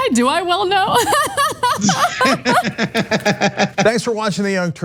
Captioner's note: laugh